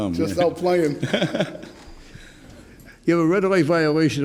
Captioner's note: laughs